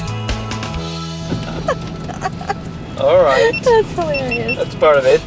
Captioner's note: laughing